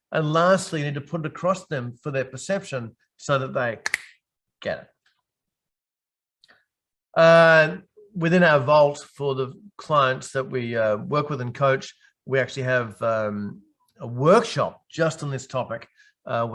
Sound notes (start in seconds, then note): 3.8 fingers snapping